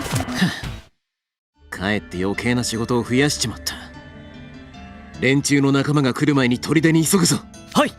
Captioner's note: sigh